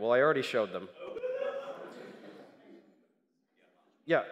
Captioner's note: crowd noise